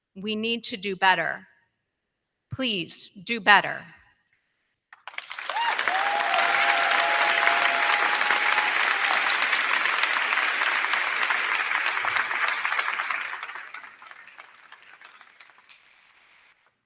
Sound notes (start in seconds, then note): 5.0 crowd cheering; 5.2 crowd clapping